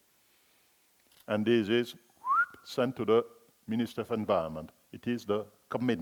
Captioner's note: whistling